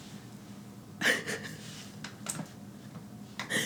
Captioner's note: laugh